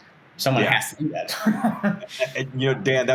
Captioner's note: laughing